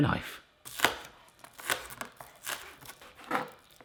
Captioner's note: chopping